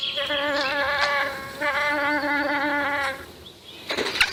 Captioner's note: insect buzzing